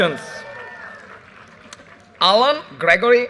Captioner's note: audience cheers and applause